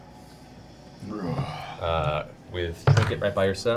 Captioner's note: roars